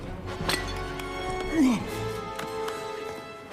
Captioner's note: grunts